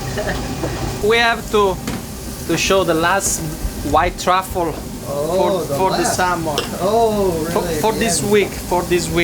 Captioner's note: laughs